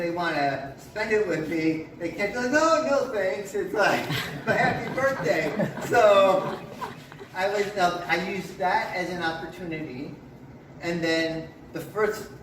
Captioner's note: laughter from audience members